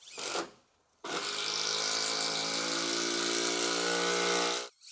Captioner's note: saw cutting